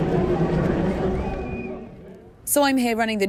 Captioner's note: crowd noise